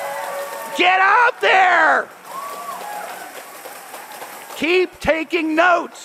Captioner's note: cheers and applause